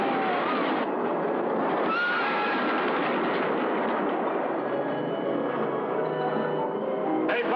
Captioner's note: screaming